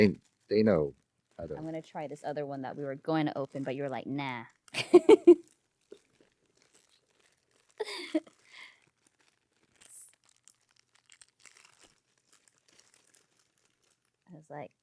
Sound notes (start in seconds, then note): 7.8 laughing; 8.0 crunching